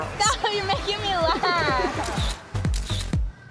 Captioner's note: laughs; camera snaps